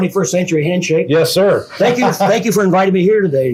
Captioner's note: laughing